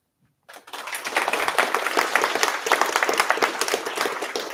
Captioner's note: applause